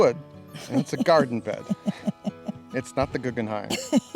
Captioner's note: woman laughing